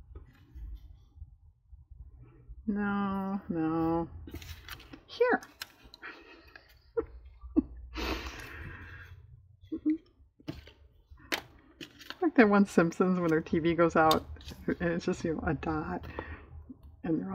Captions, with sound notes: no, no here! (laughs) like that one Simpsons when their tv goes out and it's just a dot and they're all